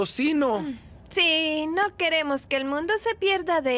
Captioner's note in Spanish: con voz sarcástica